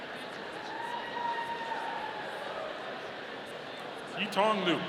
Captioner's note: audience cheering